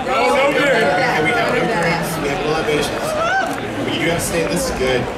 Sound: audience chattering

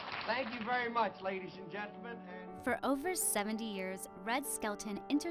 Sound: cheers and applause

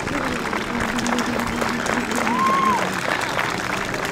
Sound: applause

